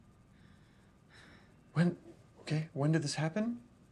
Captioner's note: Clive sighs